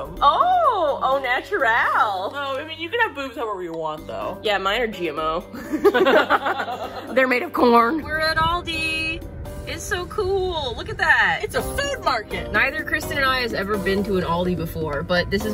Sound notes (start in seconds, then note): 5.5 both laugh